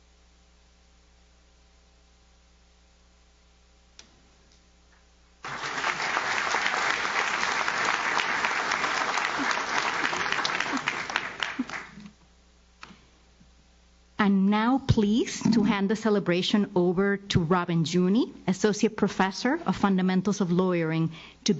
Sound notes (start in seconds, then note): 5.4 audience claps